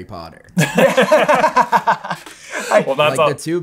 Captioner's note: laughter